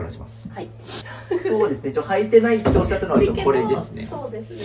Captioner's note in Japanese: 鼻息